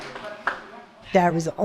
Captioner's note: applause